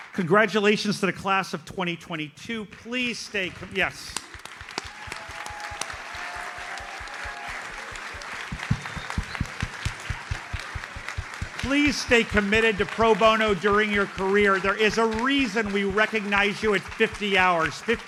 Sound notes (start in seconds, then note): 4.6 audience cheers and applauds